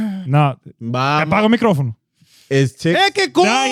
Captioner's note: speaking In Foreign Language